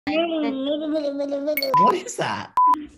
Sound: mumbling

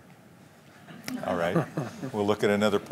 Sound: laughter

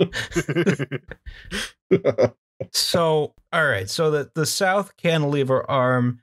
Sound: laughter

